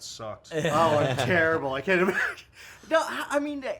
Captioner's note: laughs